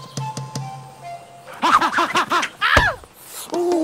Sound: grunting

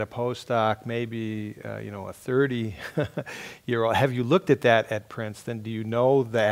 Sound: laugh

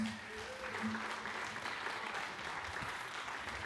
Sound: applause

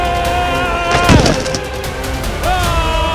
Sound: screams

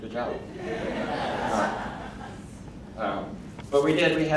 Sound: crowd laughing

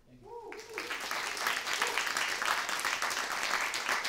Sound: applause

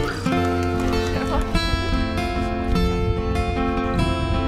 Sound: gentle music; giggling

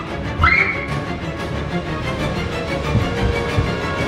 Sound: shrieks

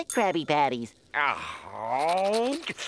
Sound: groaning

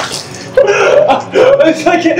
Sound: gasps again

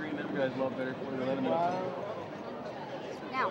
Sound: indistinct chatter

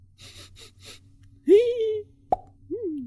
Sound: sniffing

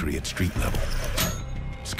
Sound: grappling hook clanks

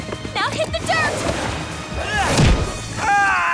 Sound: screams

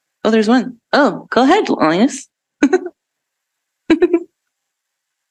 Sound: chuckles

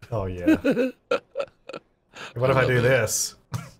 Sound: laughing

